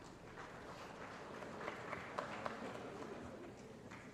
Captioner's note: applause